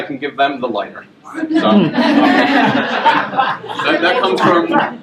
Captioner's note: laughter